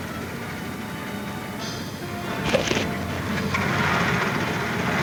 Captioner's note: pensive orchestra music; cracking